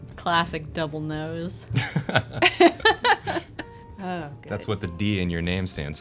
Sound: laughs

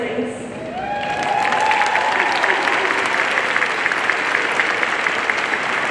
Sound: audience cheering and applauding

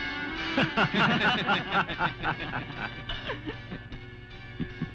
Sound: laughs

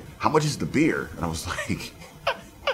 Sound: laughs

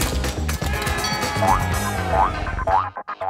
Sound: crowd cheering; bell rings

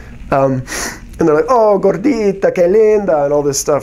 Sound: speaking spanish

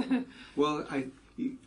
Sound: laugh

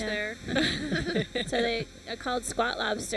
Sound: laughter

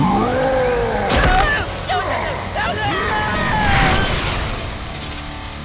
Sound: grunting and screaming

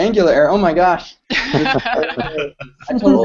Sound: laughter

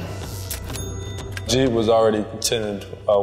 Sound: ding

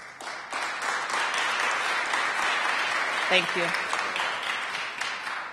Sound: applause

